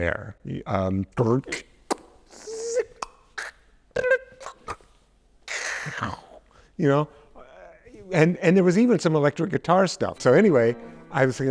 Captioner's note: vocalizes